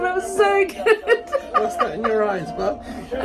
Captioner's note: laughing